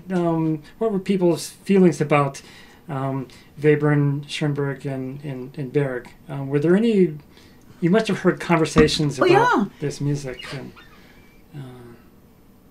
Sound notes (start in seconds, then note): 9.2 laughs